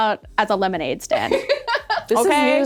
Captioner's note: laughing